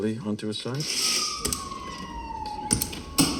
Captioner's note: sirens blaring nearby